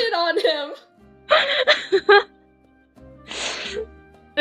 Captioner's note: laughing